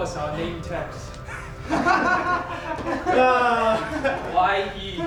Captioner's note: laughs